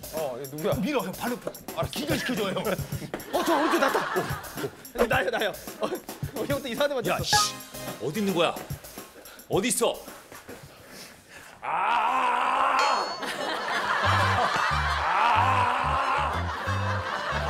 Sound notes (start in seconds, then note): 11.6 Screaming